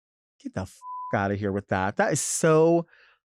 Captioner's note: beep